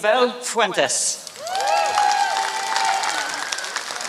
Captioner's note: applause